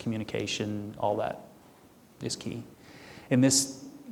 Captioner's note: none